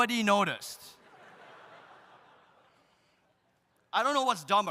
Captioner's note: audience laughs